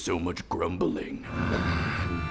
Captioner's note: grumbling